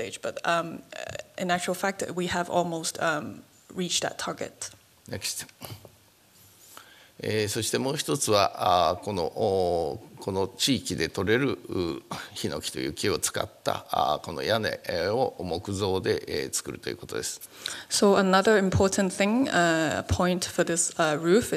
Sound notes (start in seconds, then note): 7.1 speaking japanese